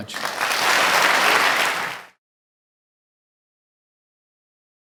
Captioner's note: audience applauding